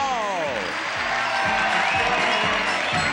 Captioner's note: audience cheers